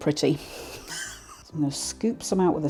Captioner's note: laugh